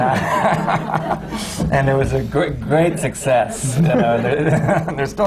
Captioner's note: laughter